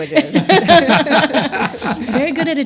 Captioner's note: laughter